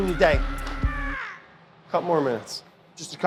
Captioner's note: yelling in the background